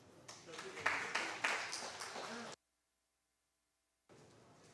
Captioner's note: applause